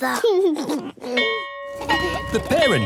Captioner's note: giggles; bell ringing